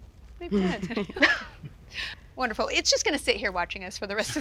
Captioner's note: chuckles